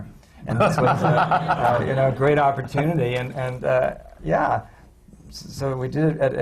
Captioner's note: laughter